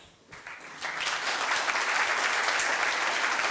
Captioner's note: applause